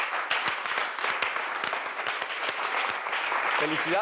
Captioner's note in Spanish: aplausos